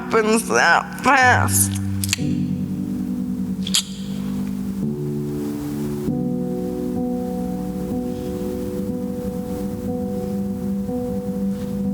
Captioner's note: tongue click